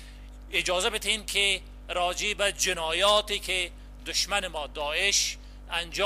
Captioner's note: translator speaking in foreign language